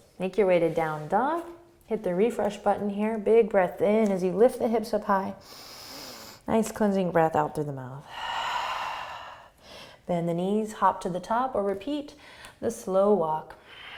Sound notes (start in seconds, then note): 5.4 inhaling; 8.1 exhaling